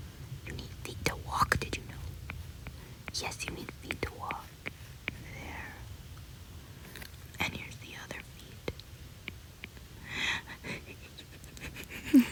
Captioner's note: maniacal laughter